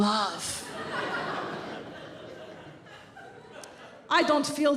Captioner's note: audience laughs